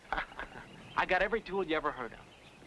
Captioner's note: Mitch laughing